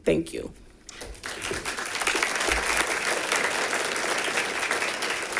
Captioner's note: audience applauding